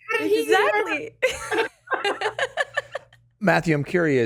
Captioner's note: laughs